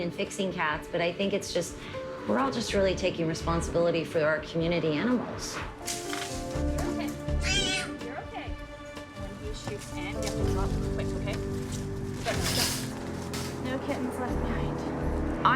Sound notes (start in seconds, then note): 7.4 cat squeals